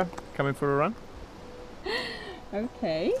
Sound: she laughs

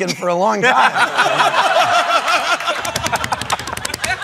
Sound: laughter, applause

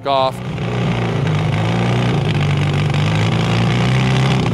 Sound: motorcycle engine revving

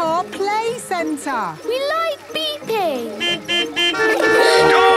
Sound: horns beeping

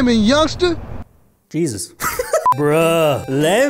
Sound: laughs

